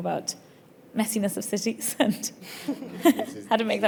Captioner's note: giggles; panellists chuckling